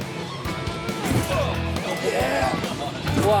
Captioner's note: heavy thudding